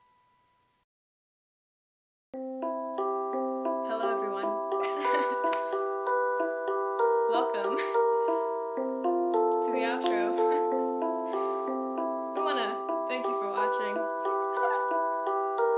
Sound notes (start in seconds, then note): 2.3 playing piano; 4.8 laughs